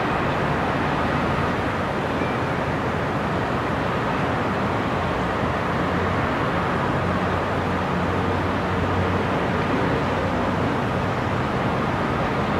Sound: sound of distant cars and city noises

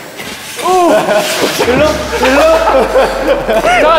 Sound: thump

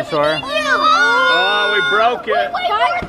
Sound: kids yelling

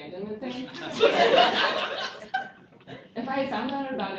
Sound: laughter

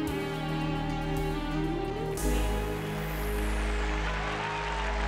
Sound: applause, Cheering

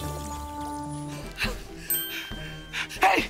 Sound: breathing heavily

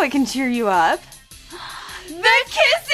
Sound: gasp

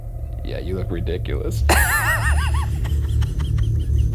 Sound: chortles

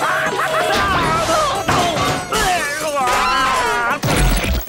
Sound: laughing; groaning

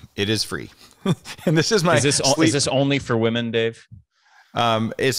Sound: chuckles

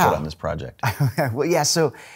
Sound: laughing

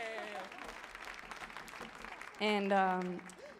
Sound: audience applauds

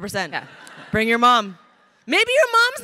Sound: crowd laughing

